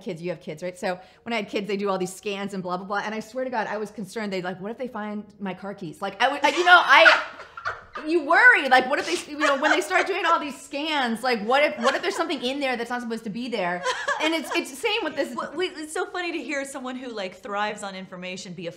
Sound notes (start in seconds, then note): 6.4 laughs